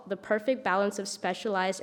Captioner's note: none